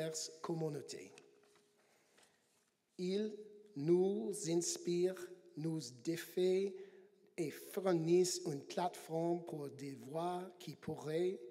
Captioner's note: speaking French